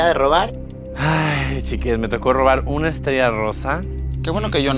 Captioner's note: sigh